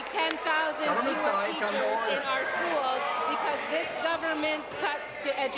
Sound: some Applause

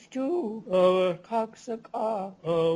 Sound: non-english speech

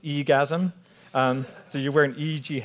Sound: audience laughing

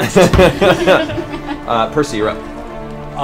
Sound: all laugh

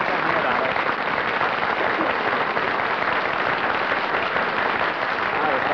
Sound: applause

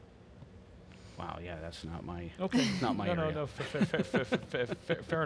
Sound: laughs

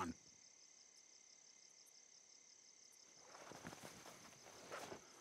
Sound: crickets chirping

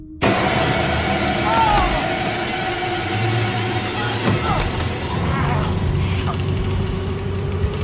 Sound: Elise screaming and sturggling

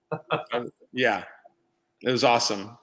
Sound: laughing

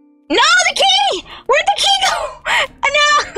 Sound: wheeze

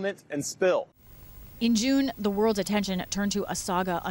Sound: voice-over

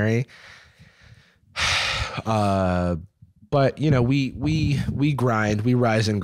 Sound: sighs

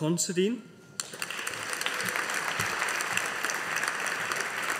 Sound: audience applauding

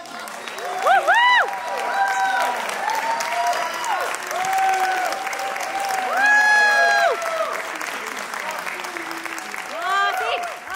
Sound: applause, cheering

